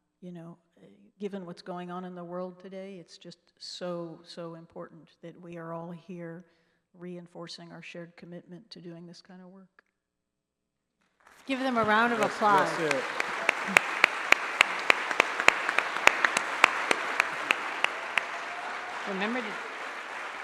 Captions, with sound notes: you know, given what's going on in the world today, it's just so, so important that we are all here reinforcing our shared commitment to doing this kind of work. Give them a round of applause. (applause)